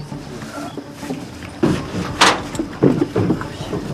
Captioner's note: metallic sound